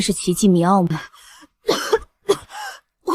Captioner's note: cough cough